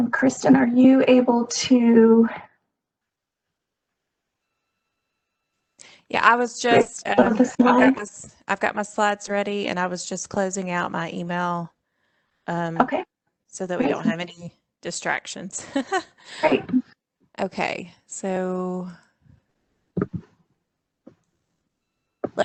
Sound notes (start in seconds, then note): 13.8 laughs